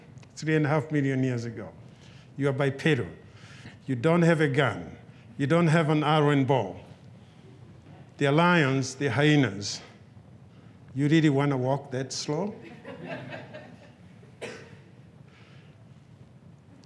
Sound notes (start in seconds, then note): 12.5 audience chuckles